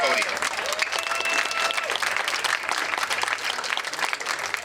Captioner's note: crowd cheering